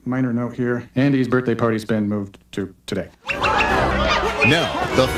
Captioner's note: all Cheering